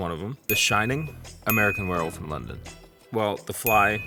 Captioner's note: bell dinging